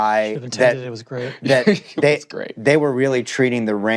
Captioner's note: chuckles